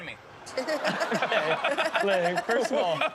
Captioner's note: laughter